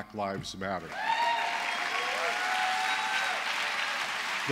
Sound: applause

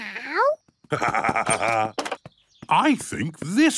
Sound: laughs

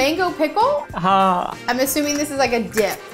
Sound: speaking in Hindi

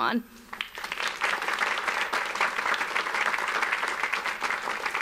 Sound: audience applauds

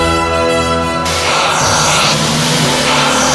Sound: glicth Sound Starting

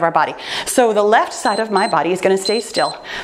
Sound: timer beeps

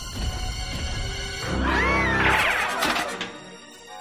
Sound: screaming

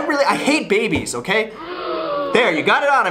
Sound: audience gasps

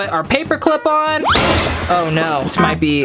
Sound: crashing

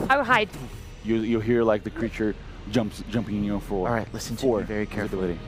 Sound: sound of footsteps

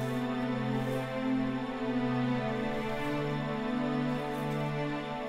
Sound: leaves rustling

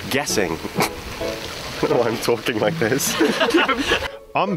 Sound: snickers; laughter

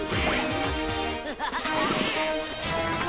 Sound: laughing

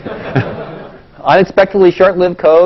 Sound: laugh

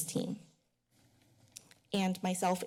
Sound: pause

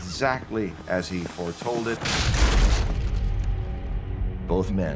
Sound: crashing

